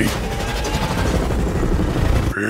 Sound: more gyrocopter noises

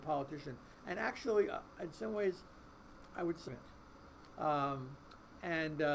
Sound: voice muffled

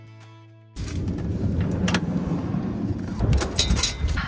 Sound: door rumbling

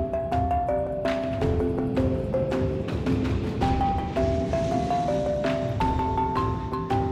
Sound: airplane taking off

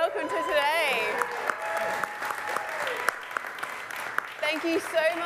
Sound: applause

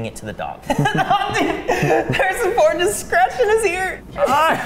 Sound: laughing

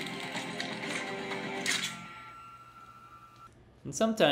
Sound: guns Cocking

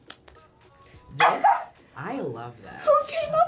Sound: laughs

